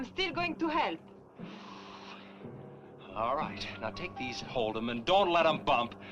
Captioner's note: sighing